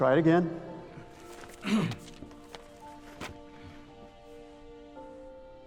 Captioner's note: clearing throat